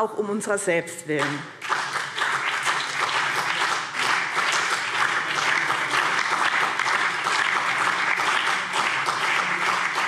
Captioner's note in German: Beifall BÜNDNIS 90/DIE GRÜNEN, CDU und DIE LINKE